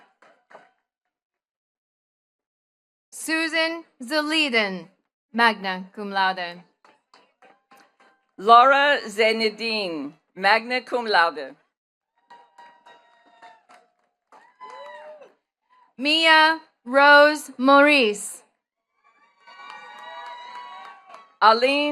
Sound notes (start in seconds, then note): 0.0 attendees clapping; 7.1 attendees clapping; 12.2 attendees cheering and clapping; 19.0 attendees cheering and clapping